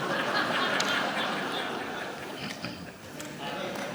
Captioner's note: audience laughs